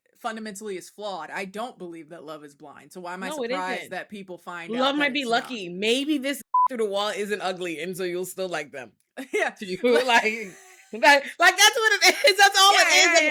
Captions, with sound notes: fundamentally is flawed. I don't believe that love is blind, so why am I surprised that people find out? Love might be lucky, maybe this (beep) through the wall isn't ugly, and so you'll still like them. Yeah, like that's what it is, that's all it is.